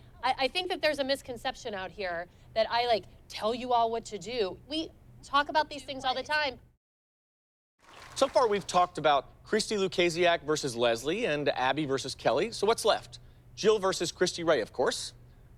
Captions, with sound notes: I think that there's a misconception out here that I tell you all what to do. We talk about these things all the time. [applause] So far, we've talked about Christi Kulasiak versus Leslie and Abby versus Kelly. So what's left? Jill versus Kristie Ray, of course.